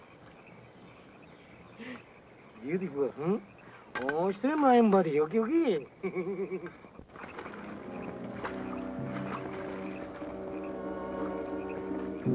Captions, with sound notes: Beautiful, huh? (speaks Japanese) (soldier laughs) (tense suspenseful music)